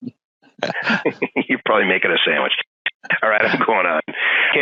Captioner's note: laughing